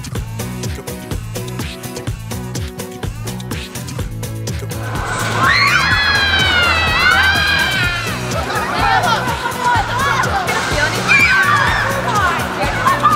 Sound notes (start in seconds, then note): 0.2 upbeat music; 4.8 screaming